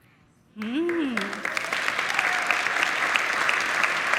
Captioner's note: audience clapping